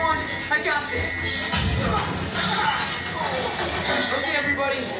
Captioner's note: explosion